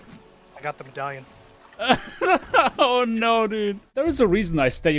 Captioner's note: pained laughter